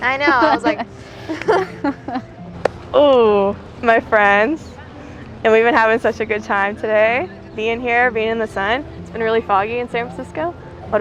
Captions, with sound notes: - I know. I was like. (both chuckle) - Ooh, my friends. And we've been having such a good time today being here, being in the sun. It's been really foggy in San Francisco.